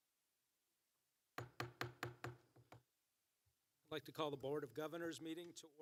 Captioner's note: gavel